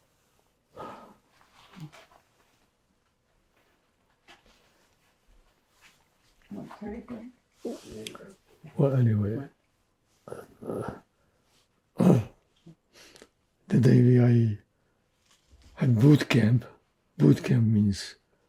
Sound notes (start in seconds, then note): 0.0 pauses 6 seconds; 12.0 clears throat